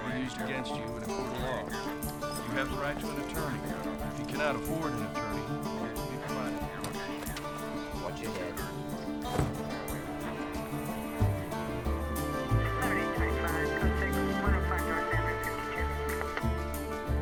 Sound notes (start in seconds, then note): 9.3 car door closes; 12.0 police radio chatter